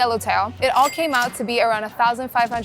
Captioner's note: chime ringing